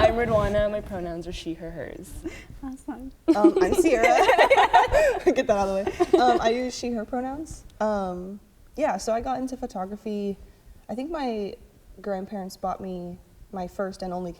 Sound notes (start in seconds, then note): 3.3 laughter